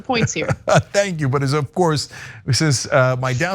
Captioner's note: laugh